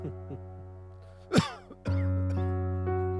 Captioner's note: laughs; coughs